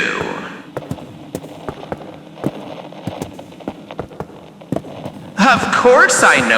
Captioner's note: climbing more stairs fx